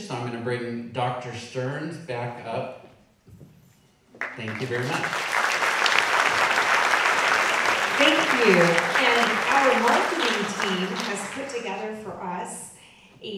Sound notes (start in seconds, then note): 4.1 audience clapping